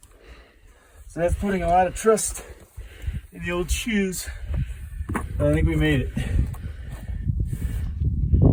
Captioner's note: wind blows